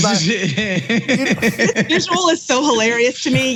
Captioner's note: laugh